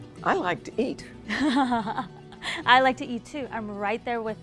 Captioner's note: laughs